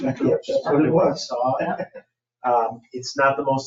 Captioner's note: people chattering